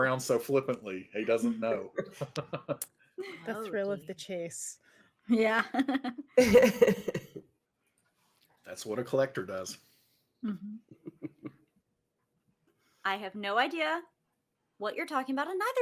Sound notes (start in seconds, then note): 5.4 chuckles; 10.5 chuckles